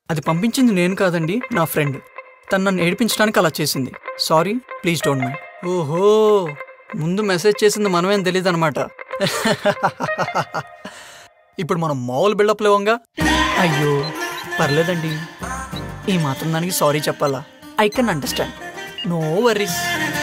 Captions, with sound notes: I didn't send that. My friend sent it. She did it to irritate me. Sorry. Please don't mind. Oh. So she doesn't know that I texted her first. (Laughs) Now I can build on this. Oh dear. It's okay. You don't have to apologize. I can understand. No worries.